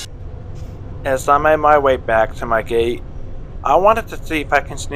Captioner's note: voiceover